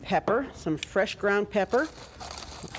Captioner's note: grinding